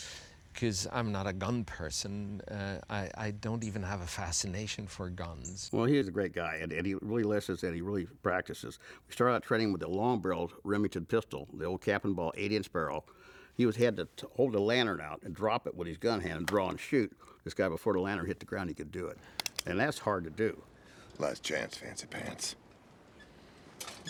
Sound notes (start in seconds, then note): 19.2 gun clicks